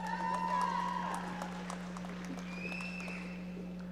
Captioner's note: audience applauding